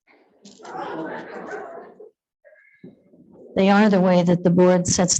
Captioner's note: attendees laughing